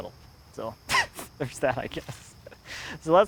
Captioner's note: laughs